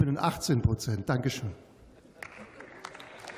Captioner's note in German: Beifall